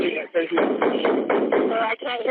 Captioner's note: gunshots